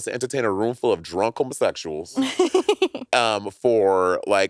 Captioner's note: laughing